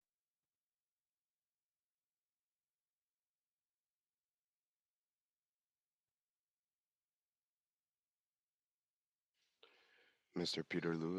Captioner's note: speaking French